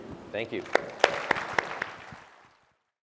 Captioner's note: applause